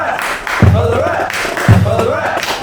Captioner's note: clapping